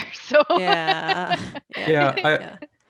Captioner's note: laughing